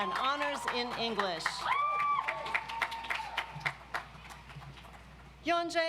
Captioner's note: audience applauds